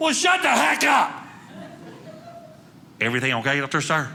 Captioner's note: audience laughing